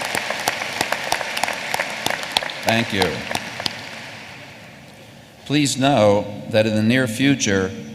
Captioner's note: applause